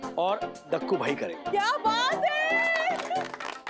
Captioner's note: clapping